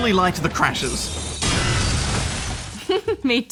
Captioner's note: crash!; chuckles